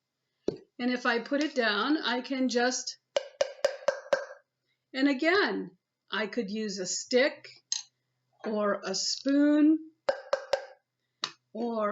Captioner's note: tap tap tap tap; tap tap tap